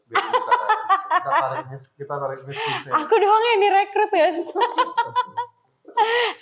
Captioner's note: laughs